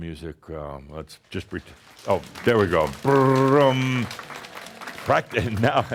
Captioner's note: audience slaps hands on legs to create a “drumroll”